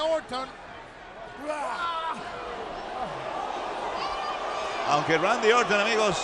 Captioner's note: applause